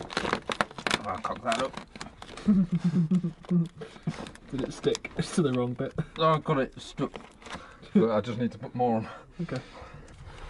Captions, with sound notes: I cocked that up. [Laughter] Did it stick? It’s still the wrong bit. No I’ve got it, it’s stuck. - I just need to put more on. - OK.